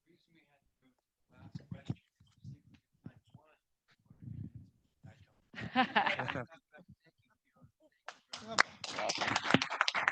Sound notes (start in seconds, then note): 5.6 audience laughing; 8.3 audience applauding